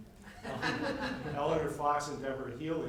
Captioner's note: members laugh